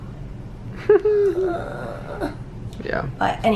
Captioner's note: chuckling